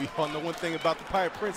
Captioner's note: crowd cheering